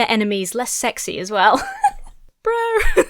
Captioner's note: laughs; giggles